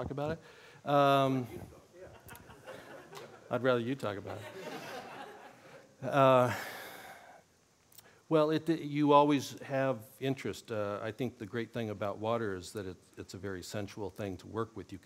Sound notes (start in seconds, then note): 2.0 laughter